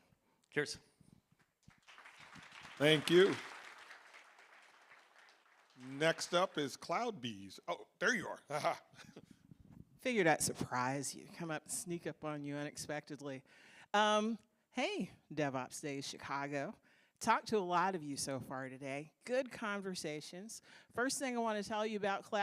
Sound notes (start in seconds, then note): 6.2 applause